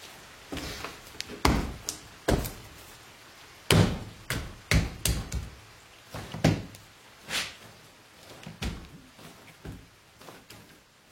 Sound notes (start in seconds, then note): 1.3 Dumbling banging